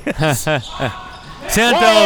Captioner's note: chuckling